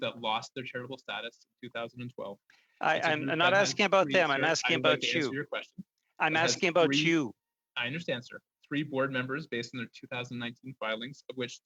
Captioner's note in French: voix de l'interprète